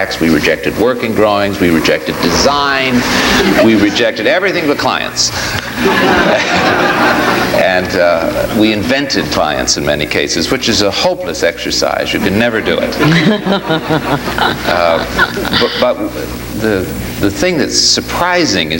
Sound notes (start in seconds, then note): 5.5 audience laughs; 12.5 audience laughs